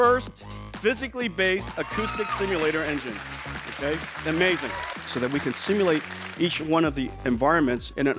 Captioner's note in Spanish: Vítores